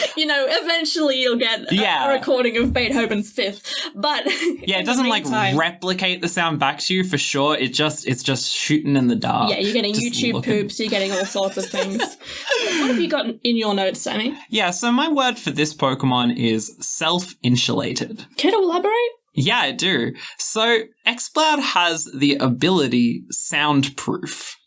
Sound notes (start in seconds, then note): 10.8 laughing